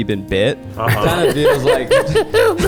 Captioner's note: group laughs